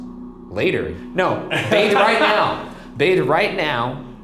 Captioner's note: laughing